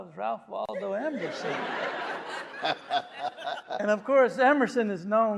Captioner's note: audience laughing; West laughing